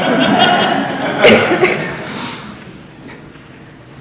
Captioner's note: laughter